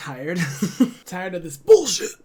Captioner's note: laughs